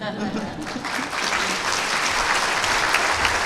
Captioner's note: laughter, applause